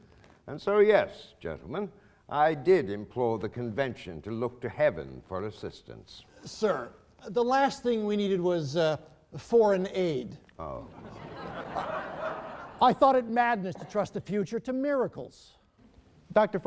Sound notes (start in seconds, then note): 10.9 laughing